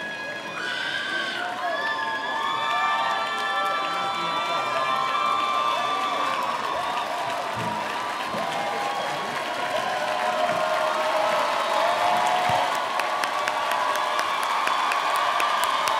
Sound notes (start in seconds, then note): 7.4 audience applauding